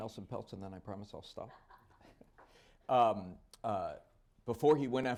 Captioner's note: laughter